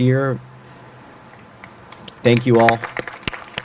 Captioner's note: applause